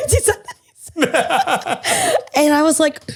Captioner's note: both laugh